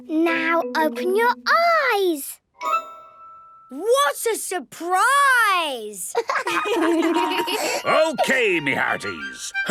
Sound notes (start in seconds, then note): 6.1 laughter